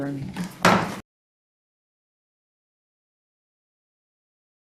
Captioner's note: gavel pounding